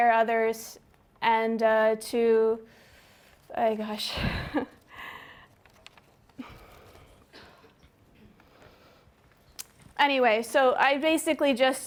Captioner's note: pause